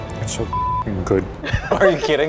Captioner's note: beep